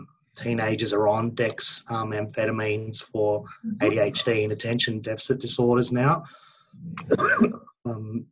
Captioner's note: coughs